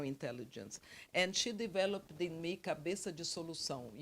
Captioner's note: speaks Portuguese